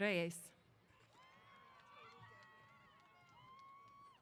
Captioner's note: cheers